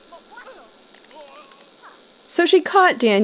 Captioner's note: mary-sue slapping daniel